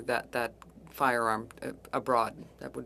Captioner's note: speaking French